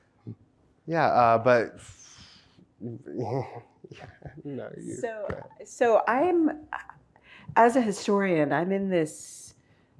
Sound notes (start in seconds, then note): 1.8 exhales